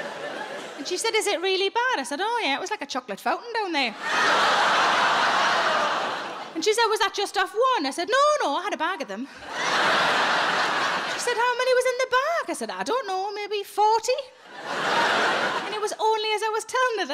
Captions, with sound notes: And she said, "Is it really bad?" I said, "Oh yeah, it was like a chocolate fountain down there." (audience laughing) And she said, "Was that just off one?" I said, "No, no, I had a bag of them." (audience laughing) She said, "How many was in the bag?" I said, "I don't know, maybe 40." (audience laughing) And it was only as I was telling her,